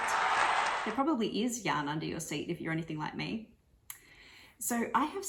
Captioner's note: cheer